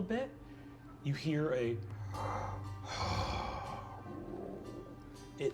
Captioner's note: sighs